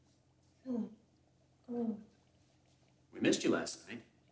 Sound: Anna grunts

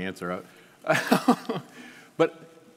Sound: laughing

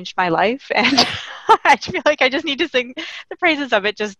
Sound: laughing

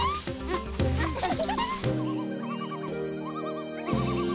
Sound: laughing; bird calling

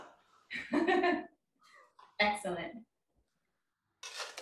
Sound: laughing

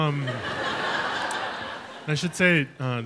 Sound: audience laughs

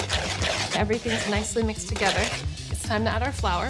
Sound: scraping

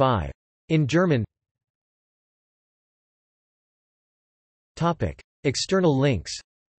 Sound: in German

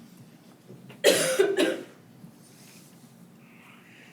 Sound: coughing

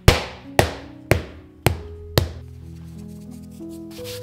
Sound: pin smacks the dough

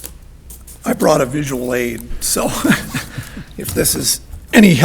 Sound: chuckles

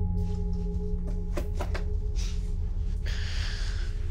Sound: door opens; inhales and blows air

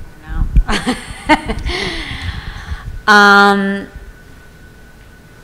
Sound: laughs

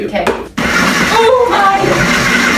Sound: harsh blender sound

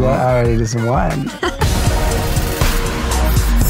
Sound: laughing; calming electronic music

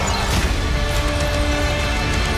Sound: metal clanging against metal

